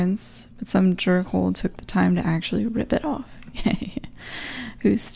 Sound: laughs

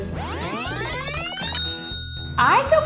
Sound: tape fast-forwarding; bell dings

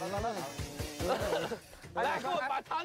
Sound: audience laughs reluctantly

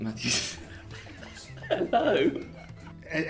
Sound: both laugh

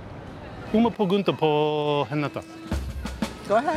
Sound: in Portuguese

